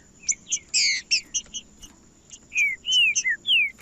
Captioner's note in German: trinca ferro cantando